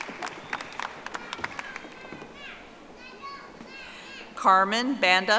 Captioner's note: audience applauding